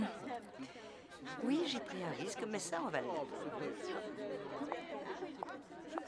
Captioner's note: indistinct conversation